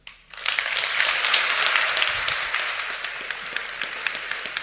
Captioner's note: audience applauding